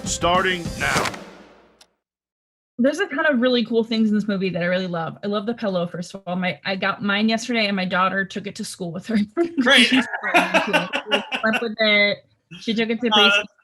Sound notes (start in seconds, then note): 9.6 laughs